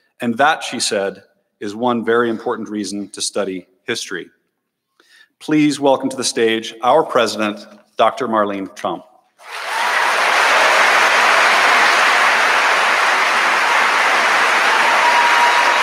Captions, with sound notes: "And that," she said, "Is one very important reason "to study history." Please welcome to the stage our president Dr. Marlene Trump. (audience applauding)